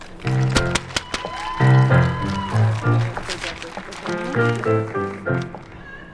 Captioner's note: applause, cheers and ♬♬ piano ♬♬